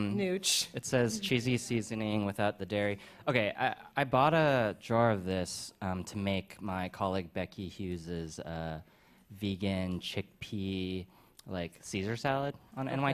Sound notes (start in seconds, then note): none